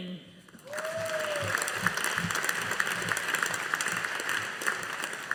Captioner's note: audience applauding